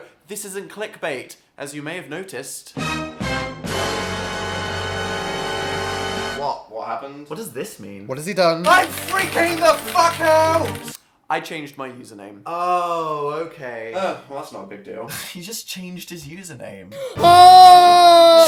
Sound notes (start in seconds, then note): 16.9 sigh; 17.1 screams